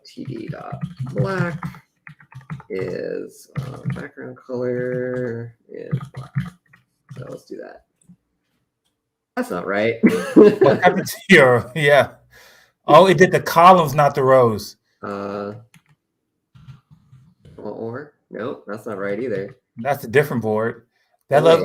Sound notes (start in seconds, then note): 10.0 laughs; 12.2 laughter